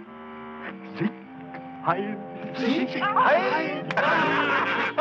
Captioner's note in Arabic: الصوت المنطوق باللغة الألمانية